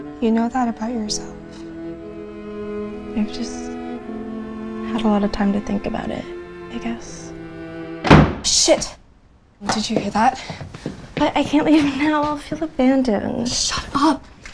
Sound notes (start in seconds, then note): 6.0 door slamming